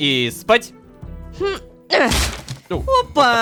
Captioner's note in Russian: Звук ломающейся двери